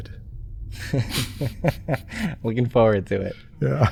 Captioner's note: chuckles